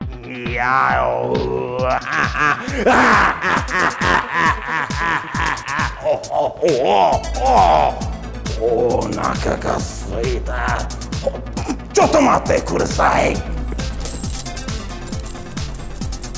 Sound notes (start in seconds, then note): 0.0 upbeat techno music; 1.6 vocalizing, maniacal laughing; 7.4 speaking foreign language